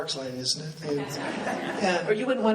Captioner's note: laughing